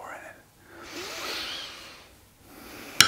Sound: deep yogi breath

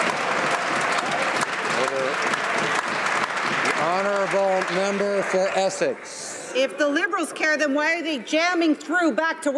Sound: some Applause

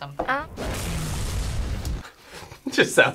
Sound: explosion echoes

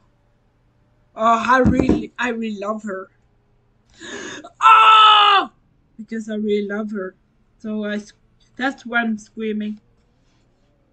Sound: screams

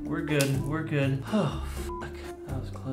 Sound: sigh of relief

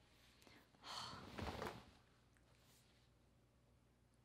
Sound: exhaling

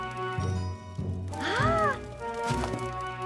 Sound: cheery noise

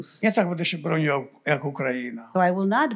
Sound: foreign language

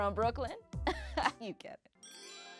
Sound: laughs

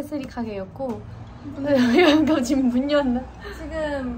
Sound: hahahaha

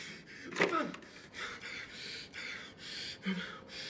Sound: breathing heavily

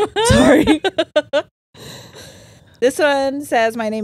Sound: laughs

